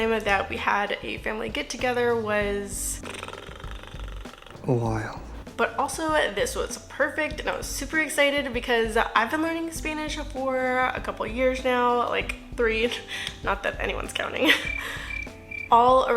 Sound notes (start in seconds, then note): 14.5 crickets